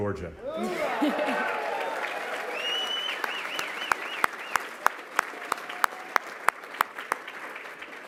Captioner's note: applause, cheering